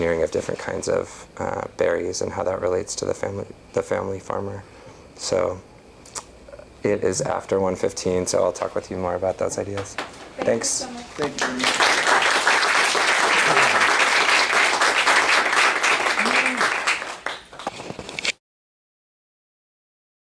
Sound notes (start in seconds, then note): 11.2 applause